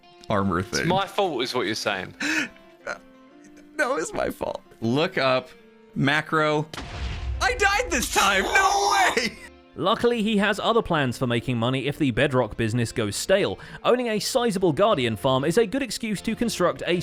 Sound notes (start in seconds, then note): 6.7 explosion; 8.9 laughing